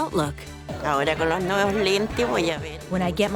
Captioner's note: speaking spanish